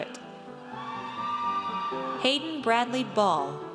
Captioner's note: audience cheers